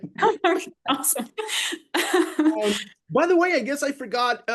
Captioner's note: laughs